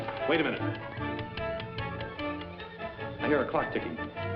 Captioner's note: timer clicking